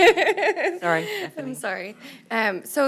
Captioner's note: laughter